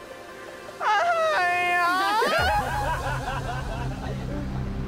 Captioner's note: all laughing